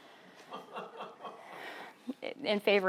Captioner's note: laughing